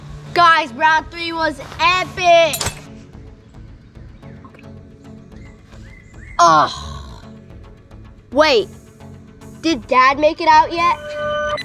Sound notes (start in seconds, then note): 2.5 glass breaks